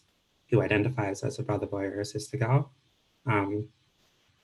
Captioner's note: speaking Indigenous language